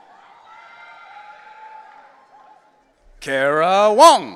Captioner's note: audience cheering